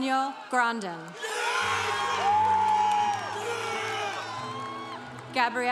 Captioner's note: congregation cheering